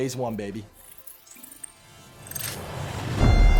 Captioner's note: soft electronic glitching; dramatic synth music